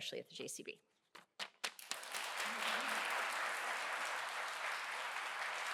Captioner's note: applause